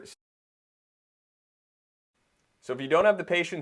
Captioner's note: silence